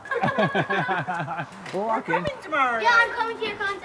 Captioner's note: laughing